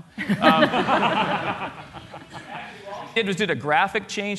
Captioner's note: laughter